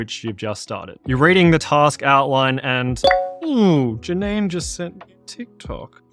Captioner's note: beep beep